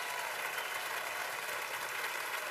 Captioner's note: cheers and applause